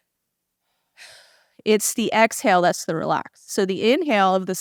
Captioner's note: sigh